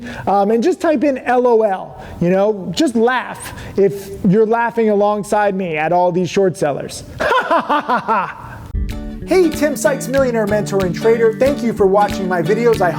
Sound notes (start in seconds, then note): 7.2 laughs